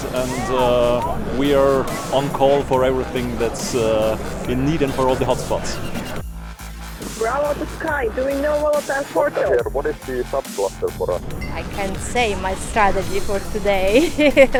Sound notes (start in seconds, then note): 7.2 radio chatter; 13.8 laughs